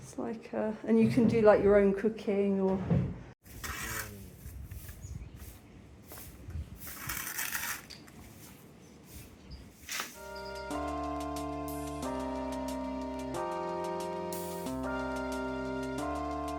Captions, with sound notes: It's like, uh, and you can do like your own cooking or... [shovelling sound] [chill music]